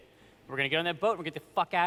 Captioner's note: none